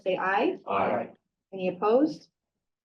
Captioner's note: participants chanting aye